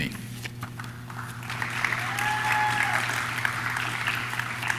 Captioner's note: audience claps